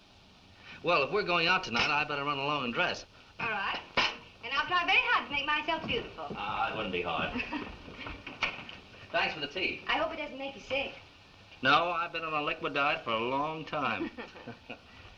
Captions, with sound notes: Well, if we're going out tonight, I'd better run along and dress. All right, and I'll try very hard to make myself beautiful. Oh, that wouldn't be hard. [CHUCKLES] Thanks for the tea. I hope it doesn't make you sick. No, I've been on a liquid diet for a long time.